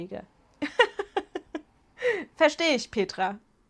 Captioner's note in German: Gelächter